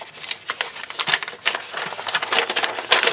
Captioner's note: paper crinkles